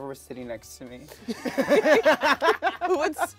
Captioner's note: laughs